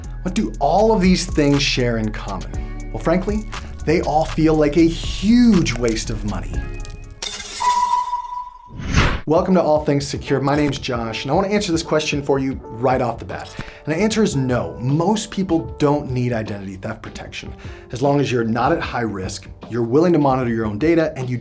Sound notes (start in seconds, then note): 7.0 logo beeping; 7.6 logo whooshing